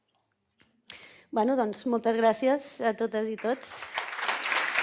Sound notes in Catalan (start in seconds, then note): 3.3 Aplaudiment